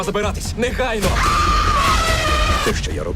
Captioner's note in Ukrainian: жінка кричить